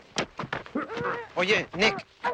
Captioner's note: men grunting